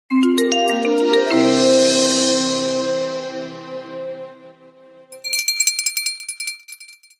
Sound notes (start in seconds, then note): 0.1 upbeat music; 5.1 bell ringing